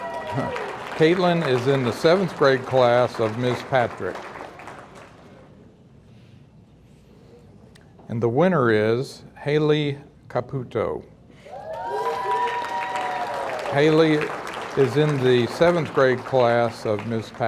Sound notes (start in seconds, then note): 11.5 audience cheering; 11.6 audience applauding